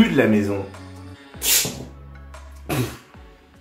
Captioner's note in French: éternuement